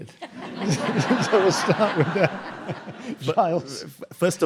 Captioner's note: audience laughs